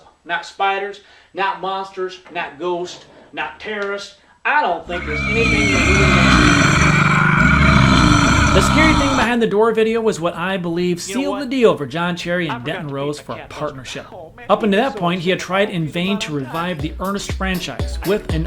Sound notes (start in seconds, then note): 4.8 monster sounds